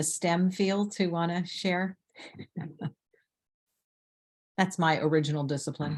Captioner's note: chuckles